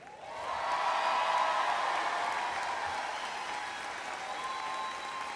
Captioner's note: extreme cheers and applause